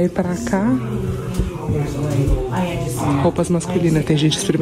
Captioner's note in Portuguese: conversas distantes